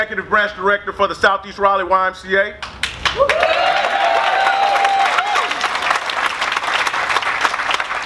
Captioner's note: cheers